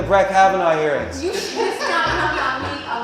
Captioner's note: laughter